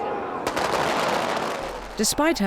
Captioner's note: guns firing